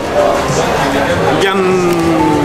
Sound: crowd chattering

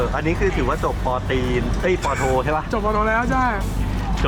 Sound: intentionally mispronouncing

